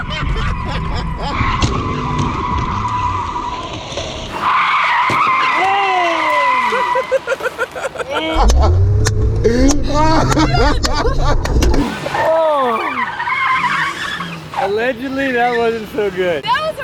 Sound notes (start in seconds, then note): 0.0 both laughing; 7.1 laughing